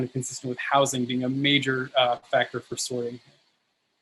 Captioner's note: murmurs